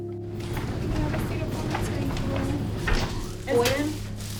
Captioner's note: nurses indistinctly chattering